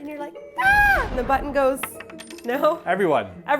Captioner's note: button hits floor